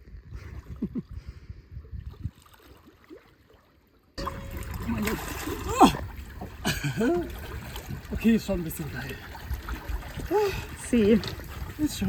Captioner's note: laughter